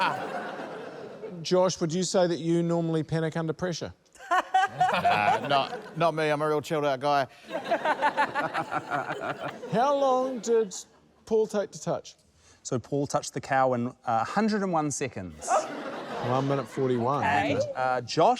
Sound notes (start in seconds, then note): 0.0 laughter; 4.2 laughter; 7.4 laughter; 15.4 laughter